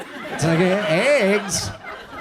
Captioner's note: audience laughs